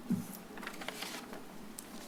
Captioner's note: paper rustles